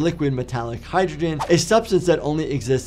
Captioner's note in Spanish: transición silbante